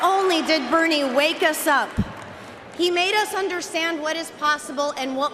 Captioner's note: cheering and applause